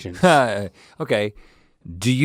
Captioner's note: laughing